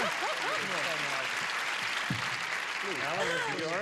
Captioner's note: clapping